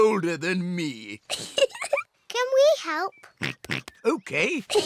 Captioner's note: laughs; giggles; oinks; peppa and george giggle